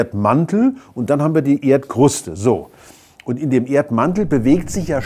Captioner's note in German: Rauschen